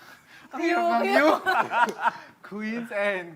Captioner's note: laughs; singing